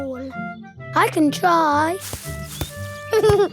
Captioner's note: leaves rustle; giggling